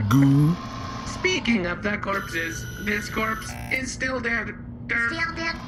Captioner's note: scanning